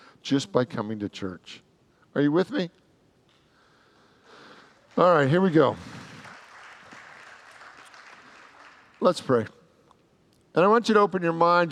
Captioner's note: applause